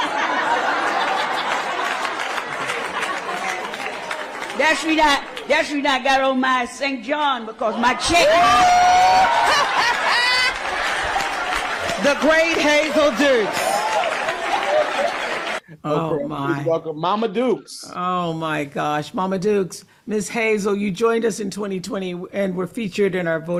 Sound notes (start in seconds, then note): 0.6 applause; 8.0 cheering